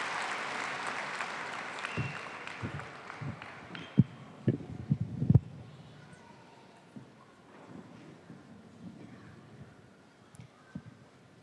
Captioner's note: applause